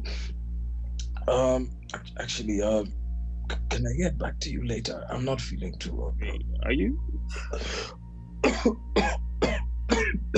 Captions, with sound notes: *Coughs* Actually, can I get back to you later? I’m not feeling too well, bro. Wait. Are you? *Coughing worsens*